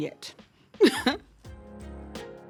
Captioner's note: chuckles; calm music